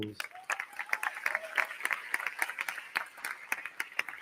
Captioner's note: crowd clapping